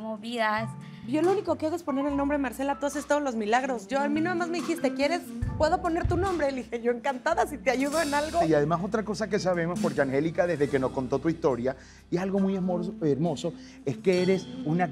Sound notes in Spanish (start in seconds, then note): none